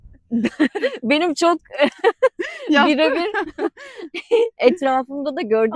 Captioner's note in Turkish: kahkaha